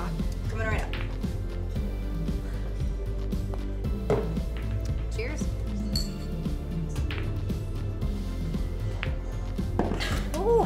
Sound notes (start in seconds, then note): 5.8 glasses clanging; 6.9 pool balls clanging